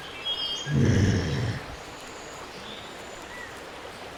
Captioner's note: woman groaning